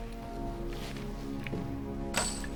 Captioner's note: metal ching